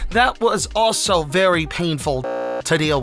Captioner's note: beep